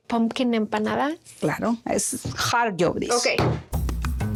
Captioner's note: speaking Spanish